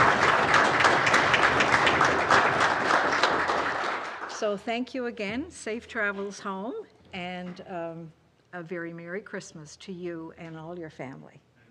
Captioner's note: applause